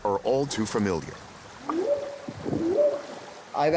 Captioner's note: whooping sound